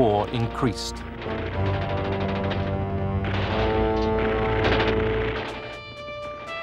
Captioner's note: gunfire, explosions